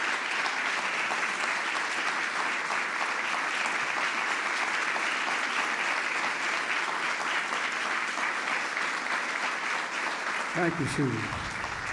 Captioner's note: applause